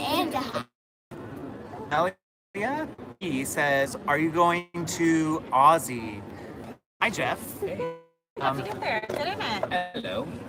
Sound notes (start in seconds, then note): 2.5 static broken speech